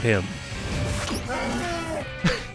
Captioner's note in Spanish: King Hippo ruge